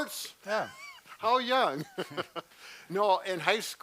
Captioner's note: laughs